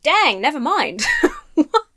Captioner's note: laughs